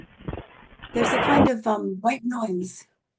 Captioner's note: white noise